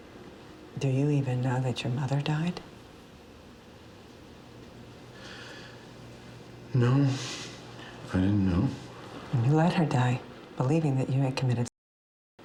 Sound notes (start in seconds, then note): none